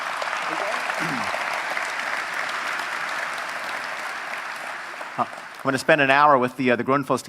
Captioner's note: applause